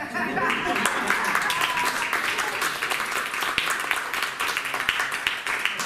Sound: applause

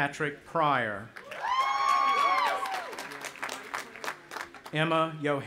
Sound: audience applauding and cheering

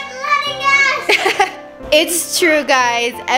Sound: laughing

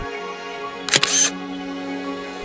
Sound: camera snapshot sound

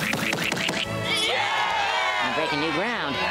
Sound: cheering

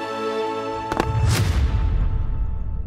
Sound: thud

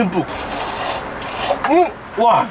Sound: slurping like a vacuum cleaner LOL

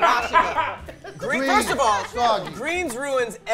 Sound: laughing

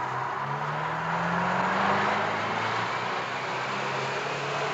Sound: bus engine revving

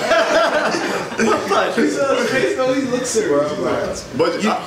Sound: audience laughs

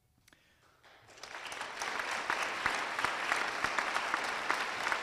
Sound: applause

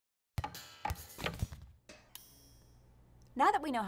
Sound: bouncing noises

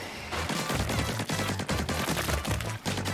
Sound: splorpy machine-gun goop

